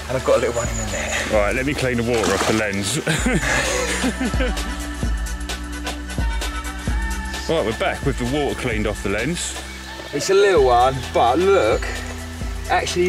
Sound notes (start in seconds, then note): 4.6 laughs slightly